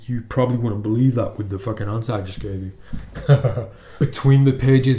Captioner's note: laughs